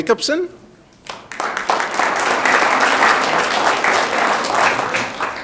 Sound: audience clapping

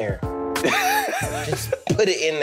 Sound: laughing

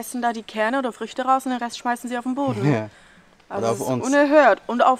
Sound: laughs

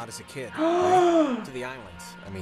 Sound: gasp

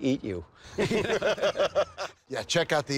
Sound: laughter

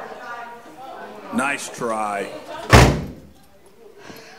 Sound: attendent Voice Over from the doorway

